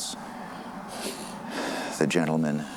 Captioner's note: breathes heavily